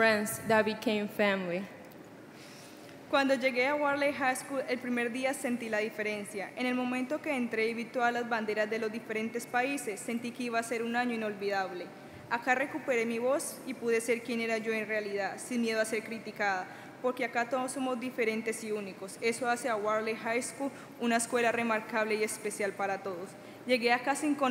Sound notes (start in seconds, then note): 3.2 speaking Spanish